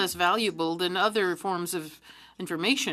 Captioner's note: speaking French